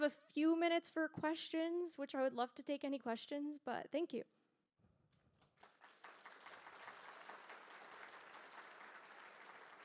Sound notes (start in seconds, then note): 5.4 applause